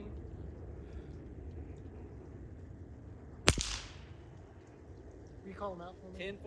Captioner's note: gunshot